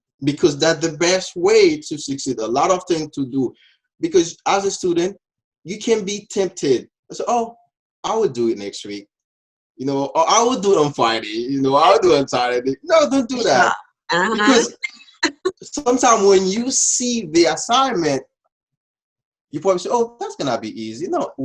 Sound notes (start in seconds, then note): 14.1 laughs